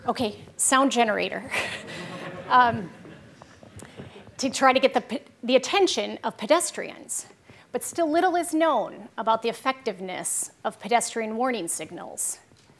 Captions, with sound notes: Okay, sound generator. (laughing) To try to get the attention of pedestrians. But still little is known about the effectiveness of pedestrian warning signals.